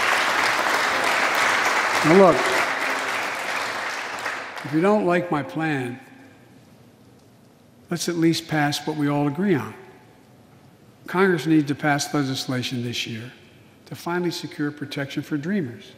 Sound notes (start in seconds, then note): 8.3 applause